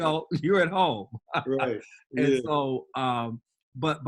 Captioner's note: laughs